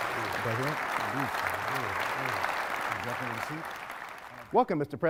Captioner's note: speech drowned out by applause